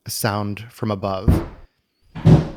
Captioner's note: more banging